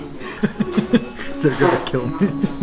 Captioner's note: laughs